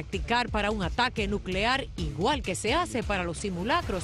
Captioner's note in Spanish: habla en inglés